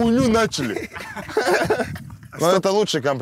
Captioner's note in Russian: смеются